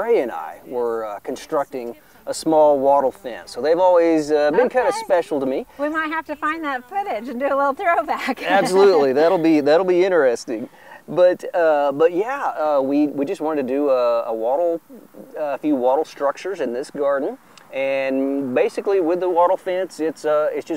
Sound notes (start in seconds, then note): 8.0 laughs